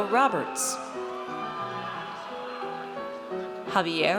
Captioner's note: audience cheers